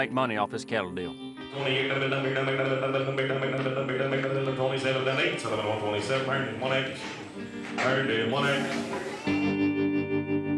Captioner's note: auctioneer speaking rapidly